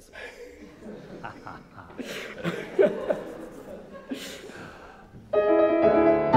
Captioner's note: audience laughing; dramatic cello and piano music